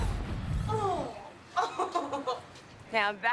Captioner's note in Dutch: Gegrinnik